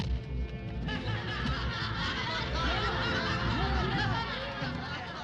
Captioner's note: people laughing